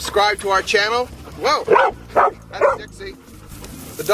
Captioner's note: dog barking